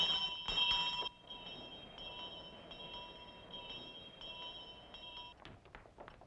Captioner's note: bell ringing faintly; wind blows; footsteps shuffling out